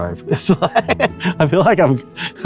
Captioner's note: laughs